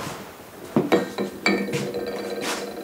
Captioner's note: clanking